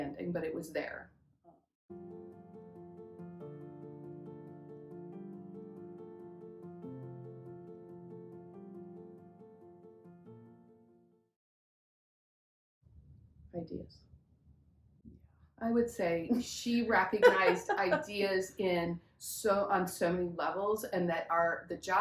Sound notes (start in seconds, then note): 7.0 laughs